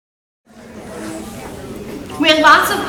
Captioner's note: audience chattering